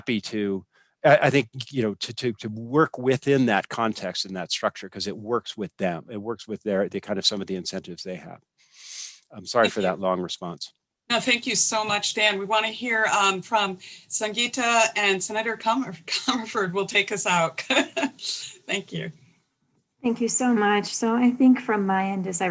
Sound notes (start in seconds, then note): 17.6 laughter